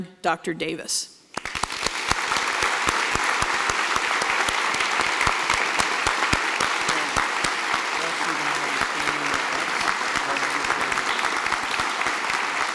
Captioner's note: applause